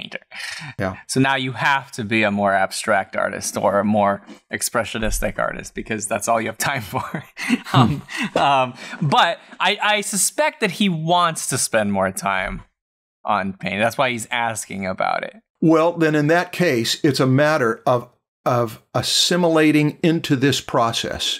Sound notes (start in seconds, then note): 7.4 laughter